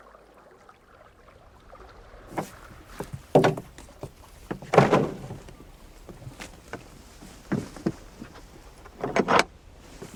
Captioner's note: a rope drops, steps, oars clatter